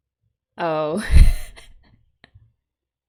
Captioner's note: laughs